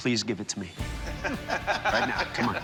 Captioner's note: laughs